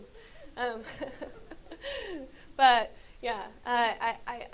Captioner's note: laughs